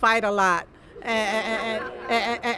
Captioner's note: laughter